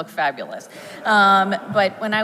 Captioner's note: audience laughs